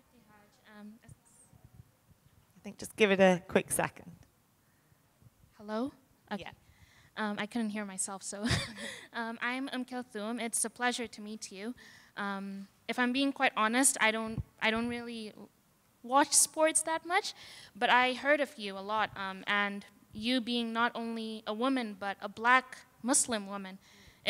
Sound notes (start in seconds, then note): 8.4 chuckles